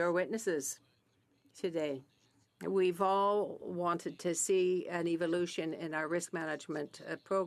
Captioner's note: speaking French